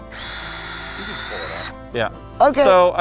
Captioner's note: drill whirling